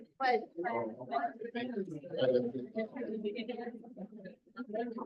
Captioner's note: audience members chattering